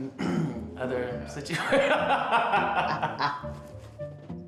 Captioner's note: laughing